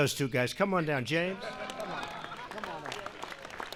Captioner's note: applause